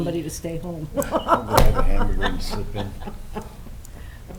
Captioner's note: laughs